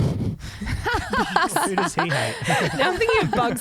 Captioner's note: laughing together